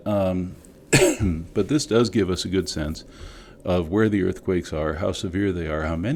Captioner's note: cough